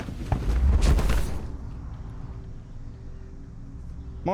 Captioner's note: Edna thuds